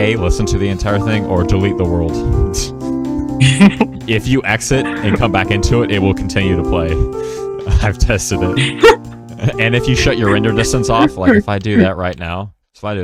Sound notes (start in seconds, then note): 2.5 tsk; 4.8 laugh; 8.5 even louder laugh